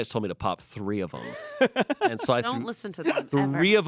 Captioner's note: laughs